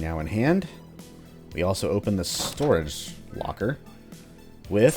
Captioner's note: background Vulture chatter